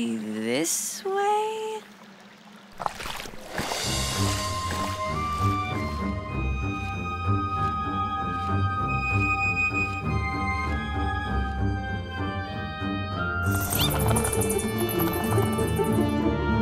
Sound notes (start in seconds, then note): 13.5 wings fluttering; 13.9 clicks